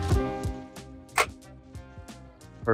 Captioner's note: plate clicks into position